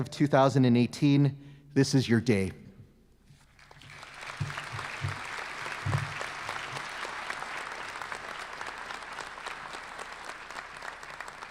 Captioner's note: applause